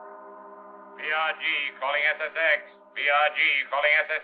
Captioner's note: man on radio